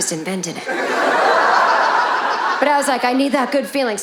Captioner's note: audience laughing